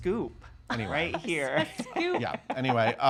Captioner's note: laughing